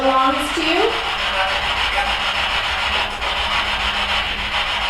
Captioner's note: static buzzing